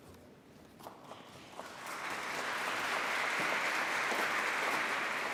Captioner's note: applause